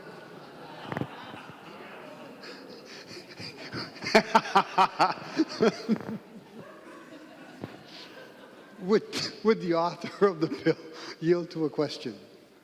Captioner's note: laughing